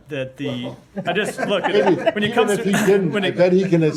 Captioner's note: laughter